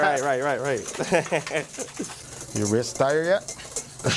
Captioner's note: laughing